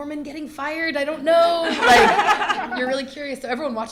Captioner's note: laughter